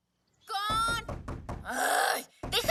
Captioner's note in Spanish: Quejumbro